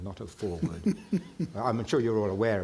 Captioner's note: chuckling